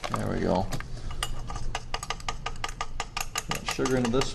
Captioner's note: tapping